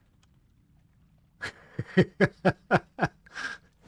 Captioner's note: laughing